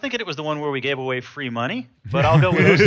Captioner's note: laughing